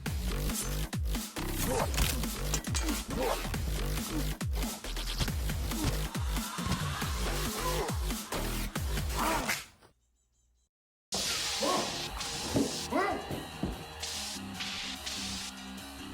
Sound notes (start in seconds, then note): 1.7 bone snap; 9.2 neck snap